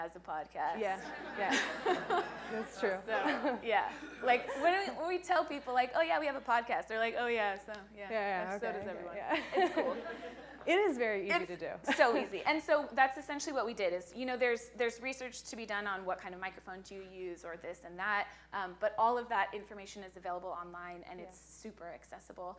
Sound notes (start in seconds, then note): 6.0 laughing